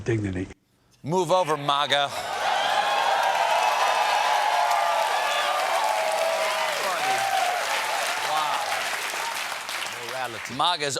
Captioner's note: cheers and applause